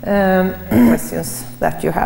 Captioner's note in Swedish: harkling